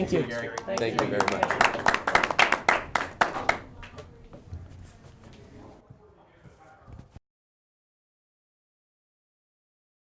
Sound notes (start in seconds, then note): 0.0 group clapping